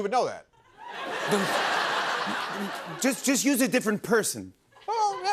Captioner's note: stammers